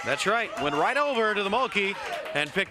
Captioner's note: crowd cheering; crowd chatter